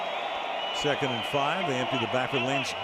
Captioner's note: cheering